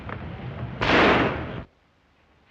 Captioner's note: gunshot